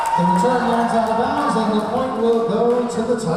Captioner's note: whistle blowing; clapping; cheering